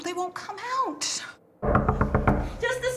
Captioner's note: knocking